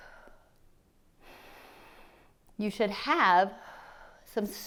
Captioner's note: inhales; exhales; inhales